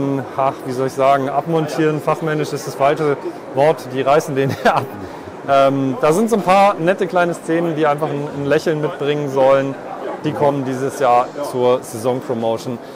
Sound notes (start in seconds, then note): 4.4 laughs